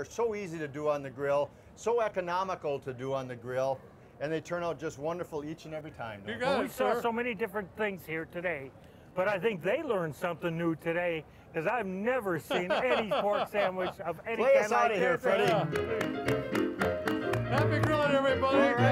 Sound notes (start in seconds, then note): 12.5 relaxed chuckles; 15.4 clapping; 15.4 upbeat piano